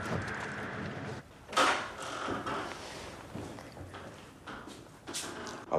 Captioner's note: door opening